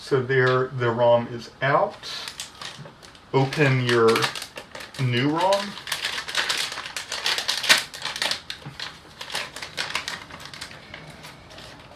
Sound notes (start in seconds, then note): 6.2 crinkling noise of ESD-safe bag